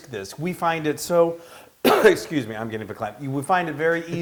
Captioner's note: cough